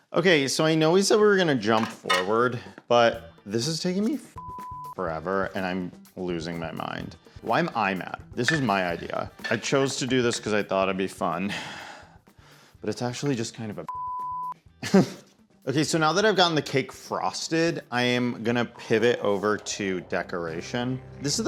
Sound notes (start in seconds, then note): 4.4 beep; 13.9 beep